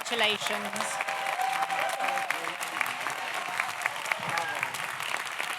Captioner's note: audience applauds; audience cheers